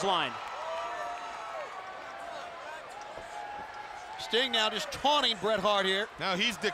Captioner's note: applause